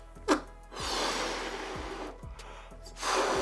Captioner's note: air flowing